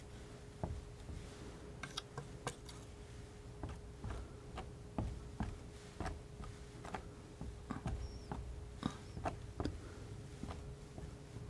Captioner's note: scratching